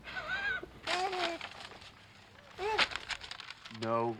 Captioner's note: Michael laughs; cooing